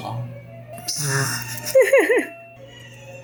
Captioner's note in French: gloussements